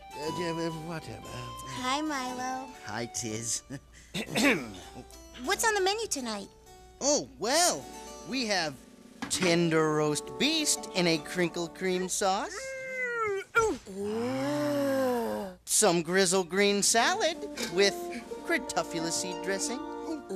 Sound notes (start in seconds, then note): 0.3 stammering; 2.9 tittering; 4.1 clears throat; 12.4 both exclaiming